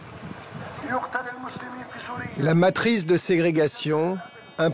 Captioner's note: Hebrew spoken audio